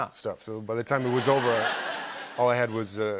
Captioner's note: laughter